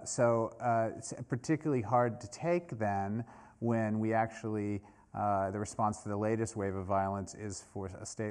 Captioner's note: none